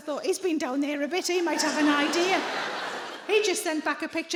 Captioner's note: audience laughing